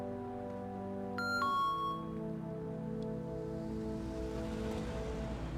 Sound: door alarm beeps

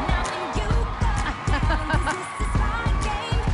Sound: laughs

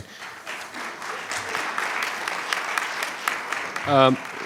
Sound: clapping

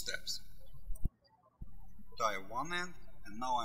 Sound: birds chirping

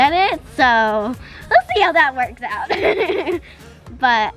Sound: laughs

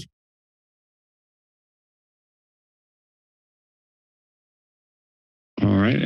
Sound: silence

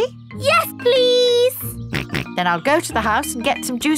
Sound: snorts

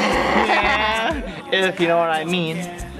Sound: kissing noises

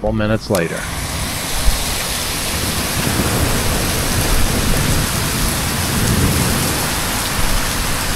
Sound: sound of rain, hail, thunder

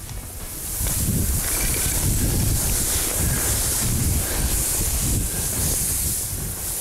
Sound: grass rustling, wind blowing

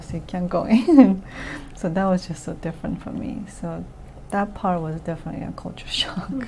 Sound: laughs

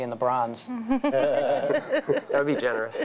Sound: laughing

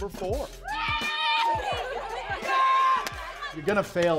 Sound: girls cheer

